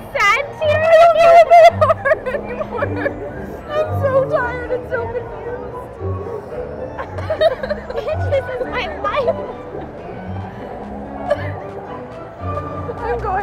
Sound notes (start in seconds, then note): 1.0 laughing; 6.8 both laughing; 11.0 both laughing